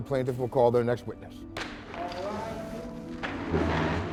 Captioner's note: gavel bangs